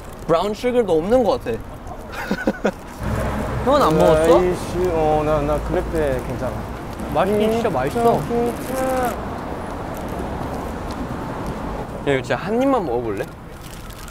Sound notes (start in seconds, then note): 2.0 laughing; 9.1 nom nom